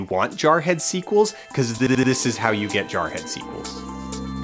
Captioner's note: gliching